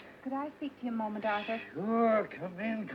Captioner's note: none